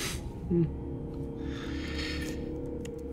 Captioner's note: scoffs